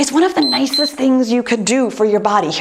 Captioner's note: timer beeps